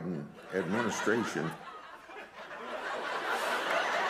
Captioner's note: laughter